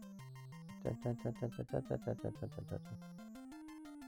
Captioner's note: <i>Hums game music</i>